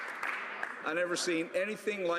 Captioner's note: some Applause